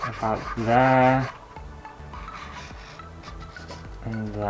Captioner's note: pen Scraping On Canvas